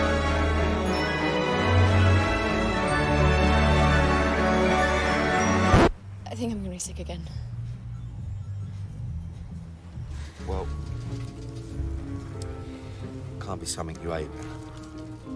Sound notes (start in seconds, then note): 5.6 record scratches, music stops